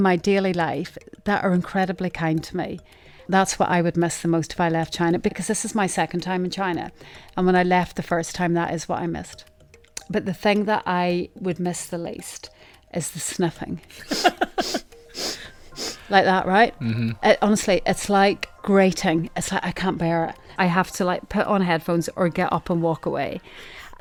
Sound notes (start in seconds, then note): 14.0 sniffing sounds